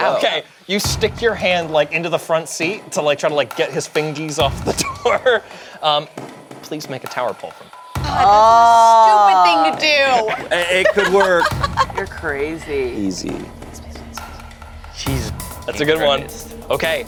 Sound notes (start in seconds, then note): 11.5 laughs; 15.6 whispering